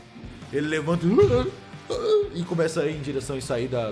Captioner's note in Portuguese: grunhidos